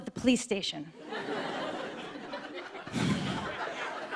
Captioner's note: light laughter